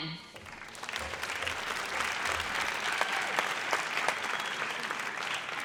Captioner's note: audience applauds